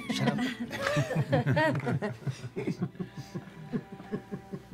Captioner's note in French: rire; rires